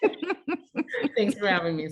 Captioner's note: laughing